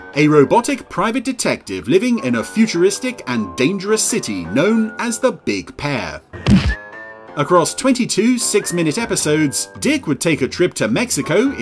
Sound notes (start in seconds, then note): 6.4 smacking into wall